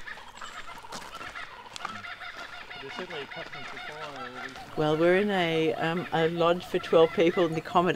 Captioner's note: Kookaburra sounds